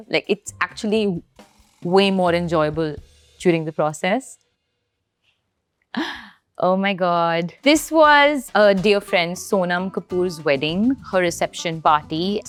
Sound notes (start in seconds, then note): 6.0 gasps